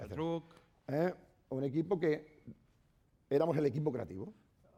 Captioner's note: speaking spanish